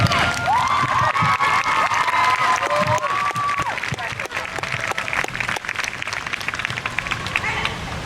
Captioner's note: crowd cheers